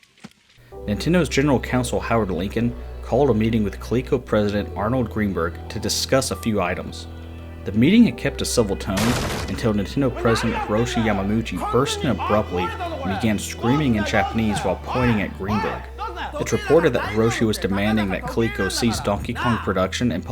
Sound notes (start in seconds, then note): 9.0 door getting kicked in